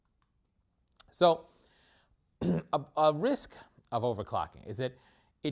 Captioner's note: cough